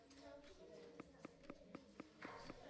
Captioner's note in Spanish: golpes de lapicero